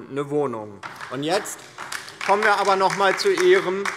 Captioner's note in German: Beifall DIE LINKE